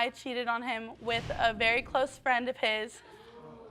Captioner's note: audience gasping